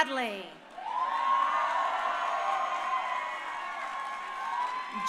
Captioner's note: crowd cheering